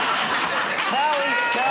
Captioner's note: laughter